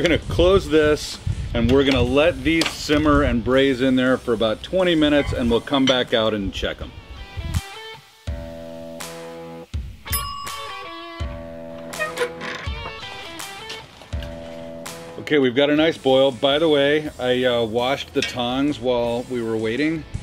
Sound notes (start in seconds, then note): 7.8 rock music continues; 10.0 bell ringing; 11.1 rock music continues